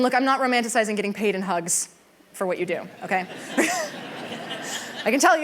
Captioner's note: laughter